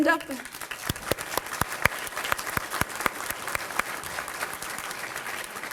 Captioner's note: applause